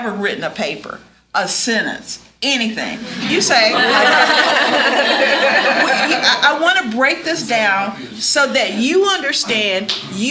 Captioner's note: laughter